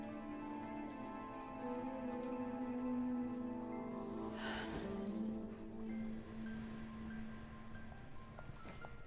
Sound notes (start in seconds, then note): 4.2 sighs